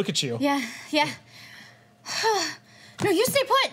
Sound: exhales

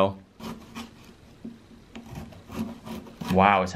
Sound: knife scraping

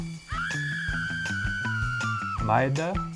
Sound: scream

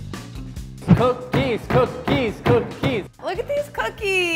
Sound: thumping

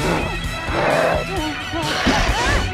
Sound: panicked noises

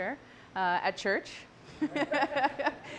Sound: laughter

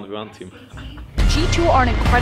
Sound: proud giggle

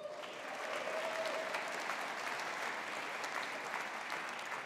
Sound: audience applauding

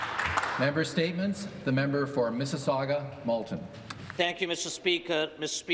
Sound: some Applause

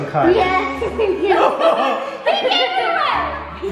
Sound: laughing

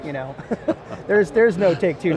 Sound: laughing

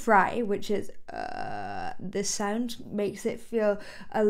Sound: vocalizes

